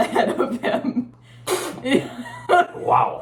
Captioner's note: spitting